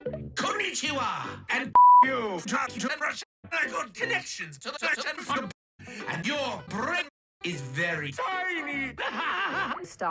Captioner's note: laughs